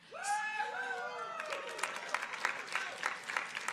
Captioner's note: audience cheering